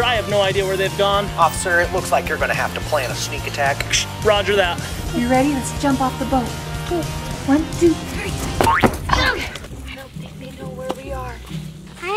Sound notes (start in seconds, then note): 1.4 man On phone